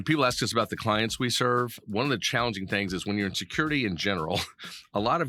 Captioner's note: laughing